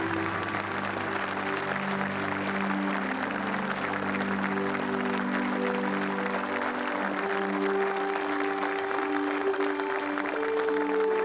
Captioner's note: applause